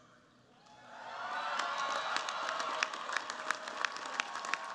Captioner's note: cheers, applause